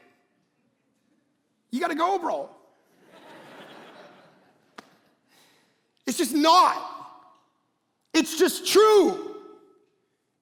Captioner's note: congregation laughing